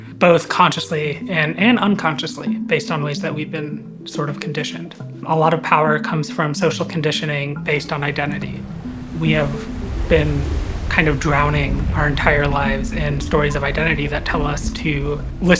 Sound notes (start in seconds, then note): none